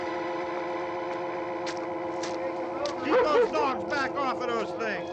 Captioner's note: footsteps